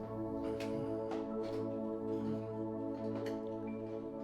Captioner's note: Dan moaning